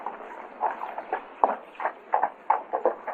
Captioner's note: horse clopping